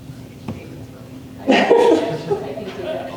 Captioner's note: laughter